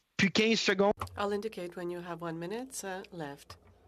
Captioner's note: speaking French